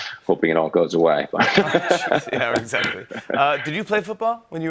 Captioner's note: laughs